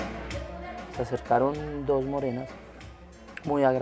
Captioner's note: speaking foreign language